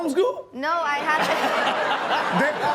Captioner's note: all laughing